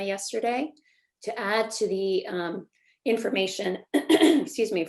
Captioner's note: clears throat